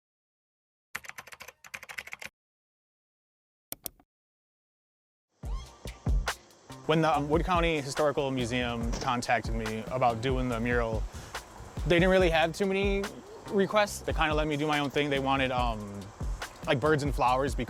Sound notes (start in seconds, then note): 1.0 keyboard clacking; 3.7 mouse clicks; 5.4 rhythmic music